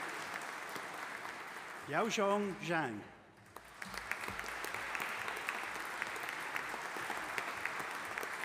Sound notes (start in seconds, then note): 3.4 audience applauding